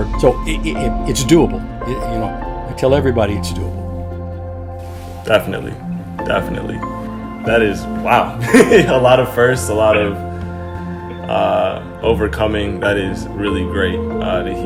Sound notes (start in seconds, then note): 8.4 chuckling